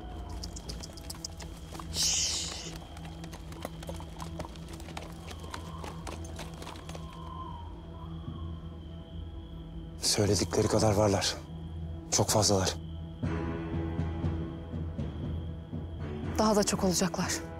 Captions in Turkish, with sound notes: [Atların ayak sesleri] Söyledikleri kadar varlar. Çok fazlalar. Daha da çok olacaklar.